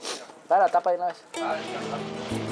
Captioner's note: Spanish spoken audio